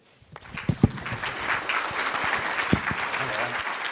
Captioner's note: audience clapping